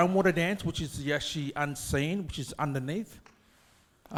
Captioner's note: speaks in foreign language